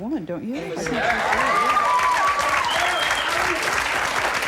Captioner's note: audience applauds